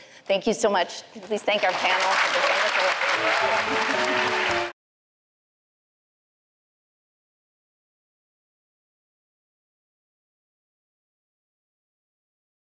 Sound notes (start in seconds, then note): 3.1 upbeat music; 3.8 all applauding